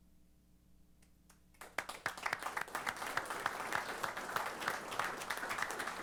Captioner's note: applause